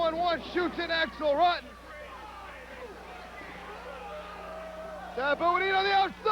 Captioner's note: crowd cheering